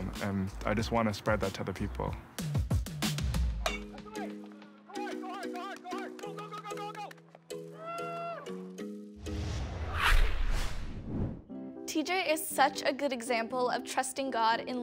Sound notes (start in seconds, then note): 2.4 upbeat music; 8.4 coach cheers